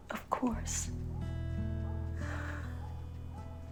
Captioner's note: dog barking